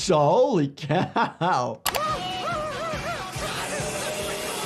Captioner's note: chainsaw buzzing